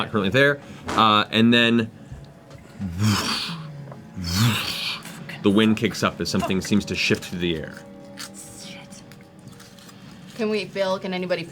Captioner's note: whooshing sounds